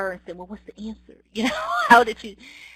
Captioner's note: laughs